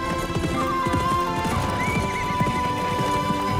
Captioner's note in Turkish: At nalı sesleri